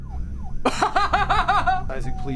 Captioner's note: siren wailing; Isaac laughing